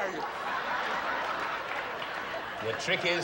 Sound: audience lughing

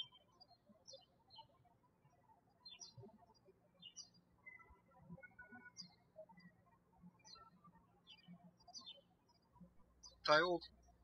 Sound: birds chirping

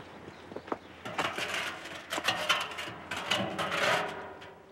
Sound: drum scraping

